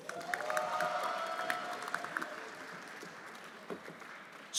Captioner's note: everyone applauding